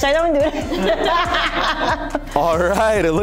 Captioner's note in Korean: 웃음